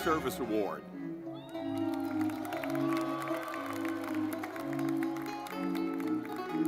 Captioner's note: lively music; audience clapping